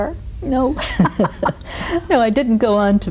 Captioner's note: both laughing